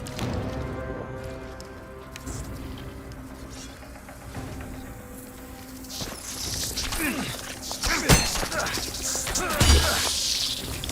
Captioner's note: footsteps